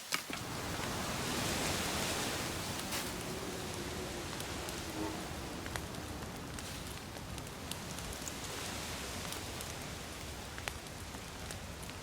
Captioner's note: wet slapping of feet in the mud, rustling of shrubbery; strong hum of wind in tree crowns, soothing crackling of fire